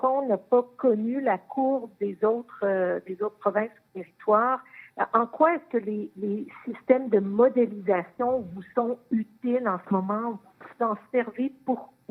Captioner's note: speaking French